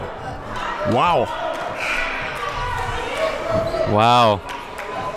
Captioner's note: buzzer blares